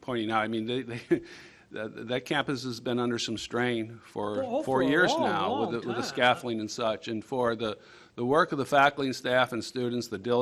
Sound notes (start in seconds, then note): 4.2 multiple voices